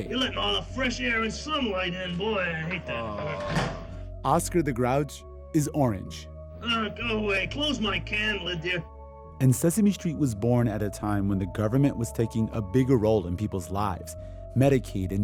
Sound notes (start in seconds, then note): 0.1 soundbite of tv show, "sesame street"; 0.7 As Oscar the Grouch; 6.1 soundbite of tv show, "sesame street"; 7.6 As Oscar the Grouch